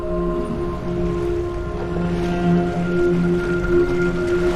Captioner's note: water burbling